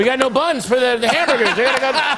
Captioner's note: laughter